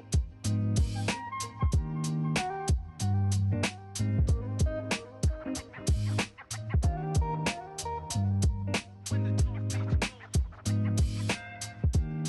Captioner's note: pure rage noises